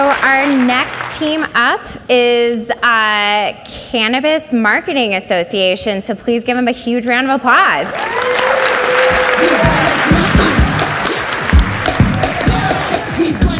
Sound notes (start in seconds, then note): 7.9 audience cheers and applauds